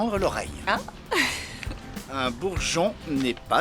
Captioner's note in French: rires